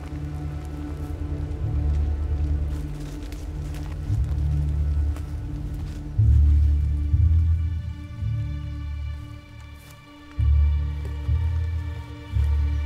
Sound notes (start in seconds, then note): 0.8 ominous music; 7.4 birds chirping; 9.7 ominous music